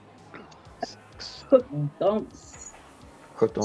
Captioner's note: wispering